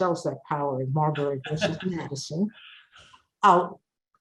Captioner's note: chuckles drowns the speaker